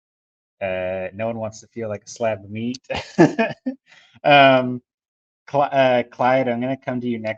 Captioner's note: laughs